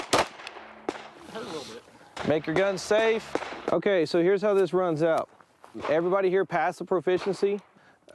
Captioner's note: gunshots